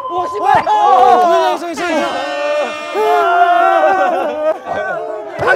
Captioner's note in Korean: 대성통곡